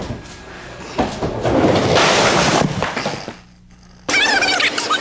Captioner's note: ambient and crashing noises; sped up blah blah blah